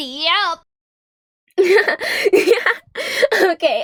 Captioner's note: Light Heart laughing